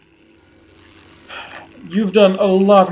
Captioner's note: sighs